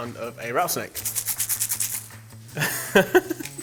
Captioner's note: seeds rattling; chuckling